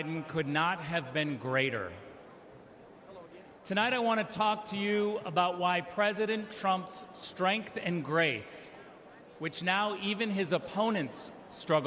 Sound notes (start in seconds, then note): none